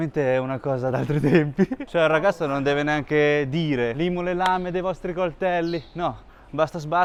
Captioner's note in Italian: risate